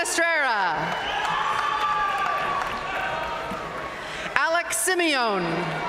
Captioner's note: audience cheering and applauding